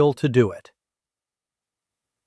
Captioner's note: pause